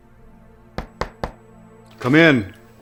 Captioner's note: knocking in door